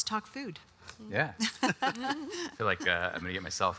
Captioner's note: all laugh